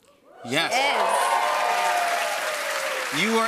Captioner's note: cheers and applause